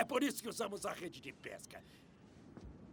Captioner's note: none